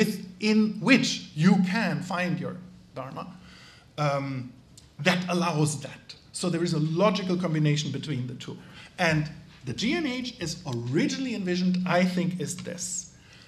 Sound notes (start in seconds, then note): none